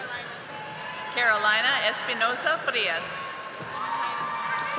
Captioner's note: audience applauding